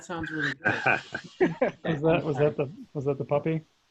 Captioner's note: trainees laughing